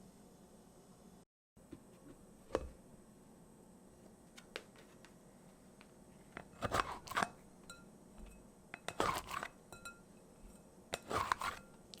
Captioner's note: folding